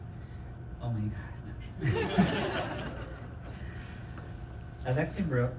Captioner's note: laughter